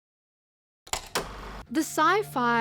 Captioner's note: film reel clacking